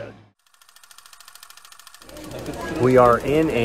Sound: film reel rolling

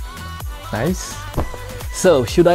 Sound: thud

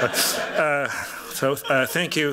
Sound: laughter

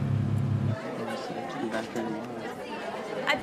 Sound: reading in spanish; students chattering; teacher speaking spanish

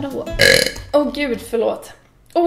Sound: burp

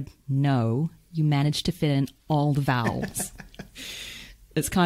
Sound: laughs

